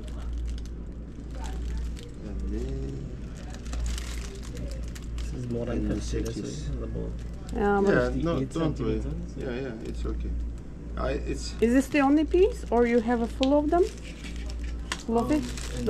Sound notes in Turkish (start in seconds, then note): none